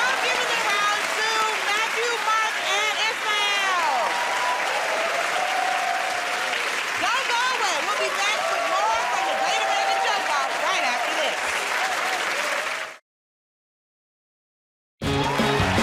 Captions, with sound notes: -Alright. I'm giving the round to Matthew, Mark, and Ismael. [ Cheers and applause ] Don't go away. We'll be back with more from "The Great American Joke Off" right after this.